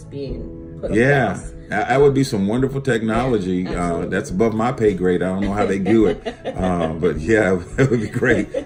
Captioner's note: laughter